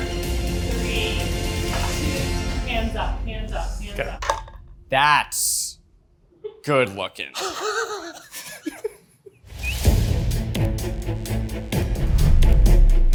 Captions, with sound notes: Okay. - That's... Good-looking. (both laughing) (exciting music)